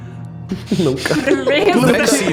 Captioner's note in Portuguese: risos